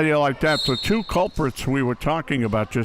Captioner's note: whistle chirping